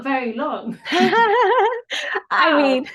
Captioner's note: chuckles